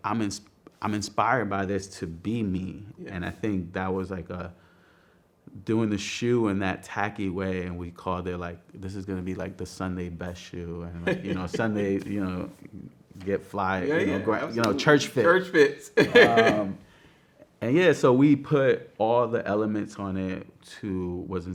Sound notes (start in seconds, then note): 15.6 laughs